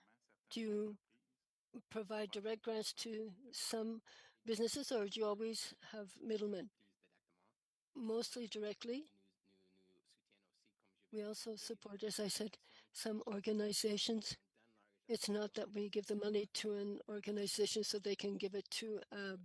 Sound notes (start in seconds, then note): 5.5 speaking French